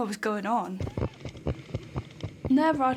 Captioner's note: hooves thudding